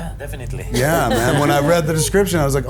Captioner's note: laughing